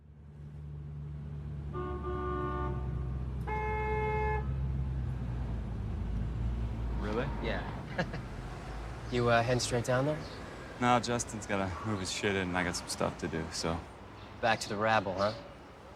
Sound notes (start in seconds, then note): 1.7 car horn honks